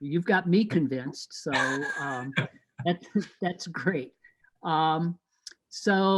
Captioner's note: both laughing